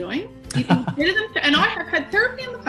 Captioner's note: laughs